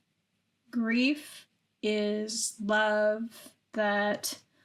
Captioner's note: none